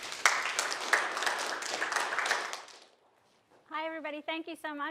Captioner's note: applause